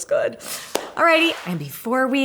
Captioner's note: splash